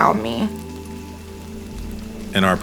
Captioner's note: raindrops falling